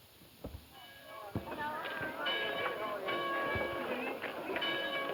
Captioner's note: group chatter